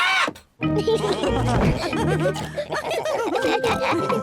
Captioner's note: all laugh; tinkling music playing